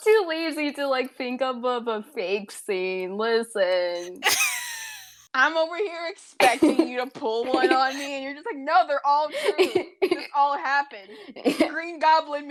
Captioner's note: wheeze